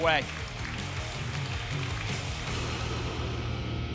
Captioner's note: applause and cheering cont